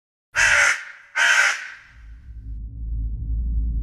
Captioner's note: crow cawing